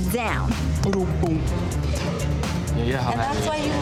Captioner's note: beatboxing